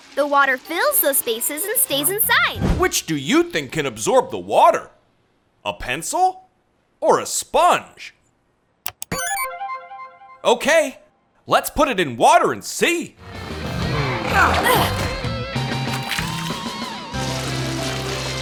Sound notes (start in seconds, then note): none